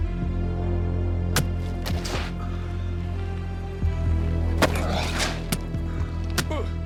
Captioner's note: punch thudding; Will groaning; Ricky groaning; kicks thudding